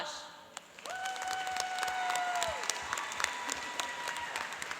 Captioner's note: cheering and applauding